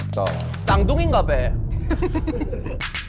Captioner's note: in a dialect